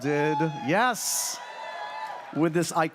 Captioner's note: audience cheers